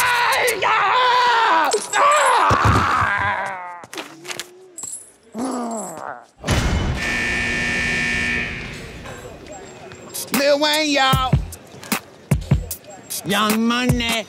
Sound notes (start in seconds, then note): 0.1 Jordan yelling; 4.6 chain clinking; 6.8 alarm buzzing; 11.7 hip hop music